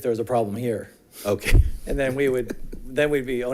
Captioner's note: laughs